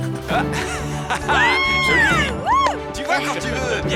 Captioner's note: laughing